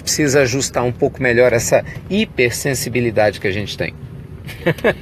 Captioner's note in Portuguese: risos